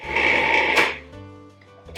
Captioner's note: grinding noise